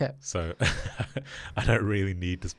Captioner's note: chuckles